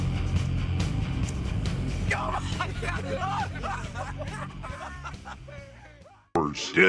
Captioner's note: laughs